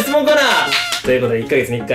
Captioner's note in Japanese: 拍手